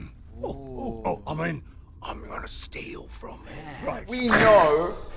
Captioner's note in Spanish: susurra